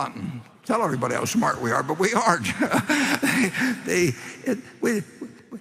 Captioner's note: laughter